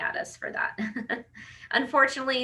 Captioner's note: laughs